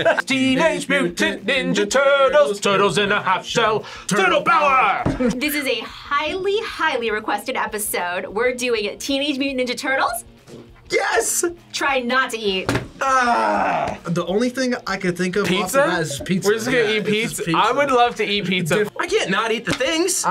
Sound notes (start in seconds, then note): 13.0 groans